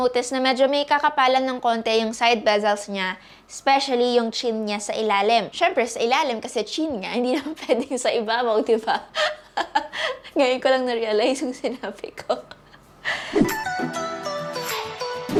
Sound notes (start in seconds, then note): 9.1 laughs; 13.1 giggles; 13.4 entertainment music